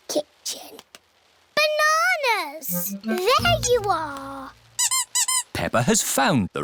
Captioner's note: squeaking